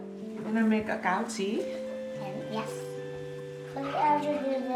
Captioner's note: speaking foreign language